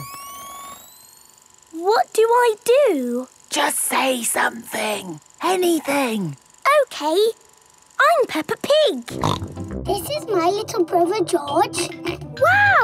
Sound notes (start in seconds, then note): 0.5 camera whirring; 3.6 whispering